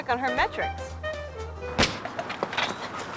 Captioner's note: starter's pistol fires